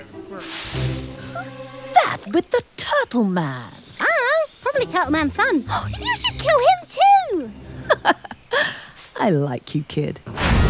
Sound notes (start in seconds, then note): 7.8 Linda laughs; 8.5 gasps